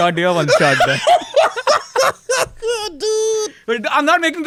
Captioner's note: laughs